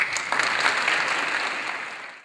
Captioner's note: audience applause